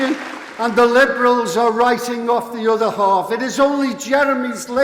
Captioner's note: applause